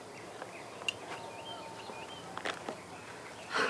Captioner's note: birds chirping